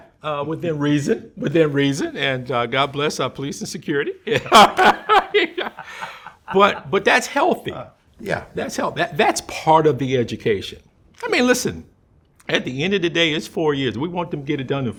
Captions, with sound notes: And we welcome that, within reason, within reason. And God bless our police and security. [both laughing] But that's healthy. - Yeah. - That's healthy. That's part of the education. I mean, listen, at the end of the day, it's four years.